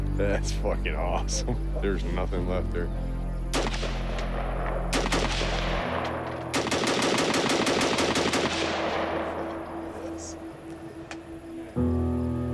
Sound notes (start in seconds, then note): 3.5 gun blasts